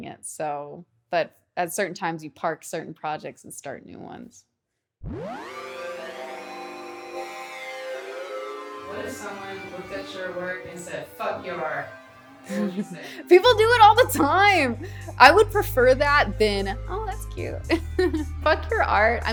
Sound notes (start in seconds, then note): 5.5 eerie music; 17.6 laughs